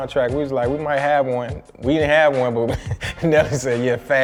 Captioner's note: laughs